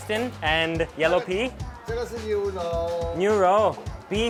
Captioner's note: man speaks in a foreign language; speaks in a foreign language